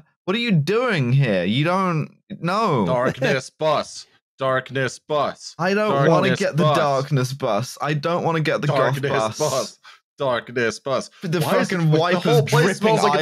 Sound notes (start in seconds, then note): 3.2 chants; 8.7 chants